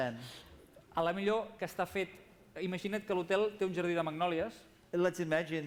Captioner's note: non-english speech